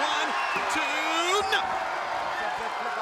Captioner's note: audience cheers; audience jeers